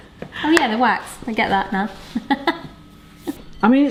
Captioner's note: laughing